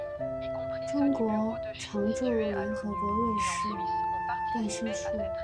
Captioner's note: French; French